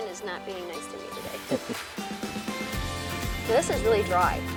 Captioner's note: chuckles